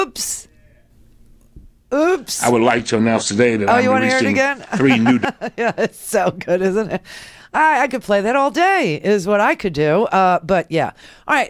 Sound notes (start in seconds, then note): 3.8 laughs